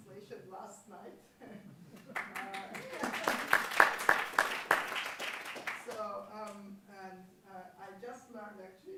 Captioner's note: applause